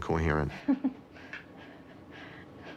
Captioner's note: chuckling